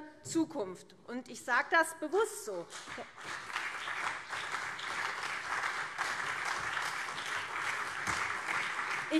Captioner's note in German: Beifall CDU und SPD